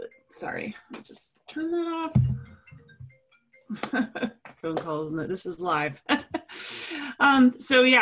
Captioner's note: laugh